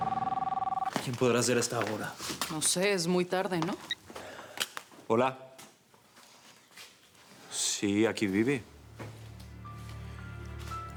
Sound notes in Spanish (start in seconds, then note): 0.0 Suena el teléfono